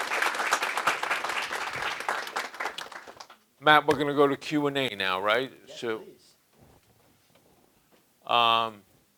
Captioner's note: applause